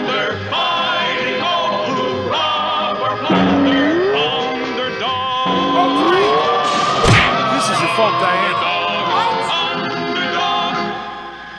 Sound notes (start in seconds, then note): 6.7 crash!